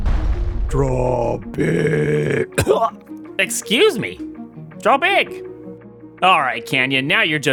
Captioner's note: cough